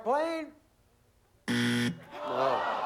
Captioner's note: buzzer